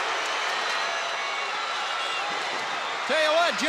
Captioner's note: audience cheering